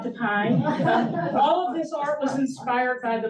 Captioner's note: crowd chuckles